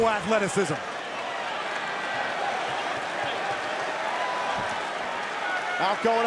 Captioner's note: crowd cheering